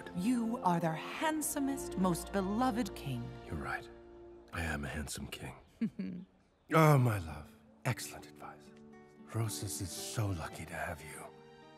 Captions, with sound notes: You are their handsomest, most beloved king. You're right. I am a handsome king. (Amaya giggles) Oh, my love. Excellent advice. Rosas is so lucky to have you.